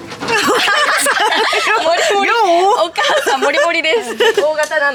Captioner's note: laughter